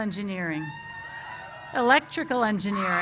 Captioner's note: cheers